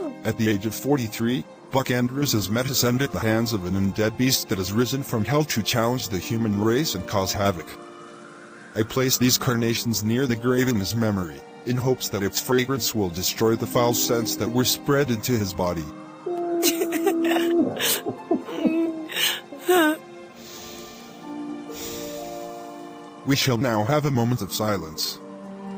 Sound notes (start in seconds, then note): 0.0 wolf howling; 16.2 distant cries in mourning; 21.3 sighing